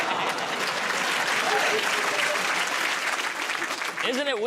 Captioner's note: laughter; applause